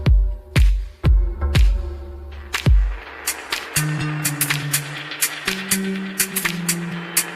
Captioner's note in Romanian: Aplauze